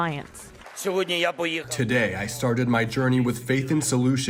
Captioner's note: through translator